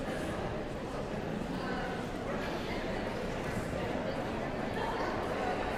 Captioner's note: audience chattering continues